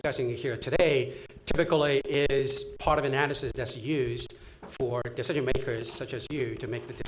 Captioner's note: none